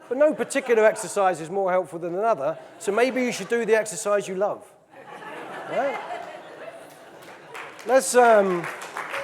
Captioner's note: audience laughing; audience laughing; audience laughing, clapping